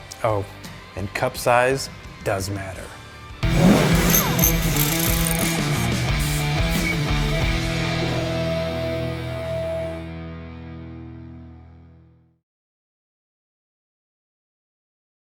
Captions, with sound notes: Oh, and cup size does matter. (upbeat rock music) (sparks zapping)